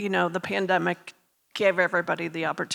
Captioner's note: none